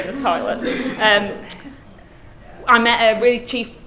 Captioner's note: class laughing